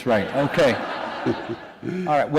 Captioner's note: laughter